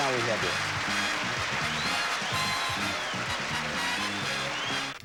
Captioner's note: audience applauding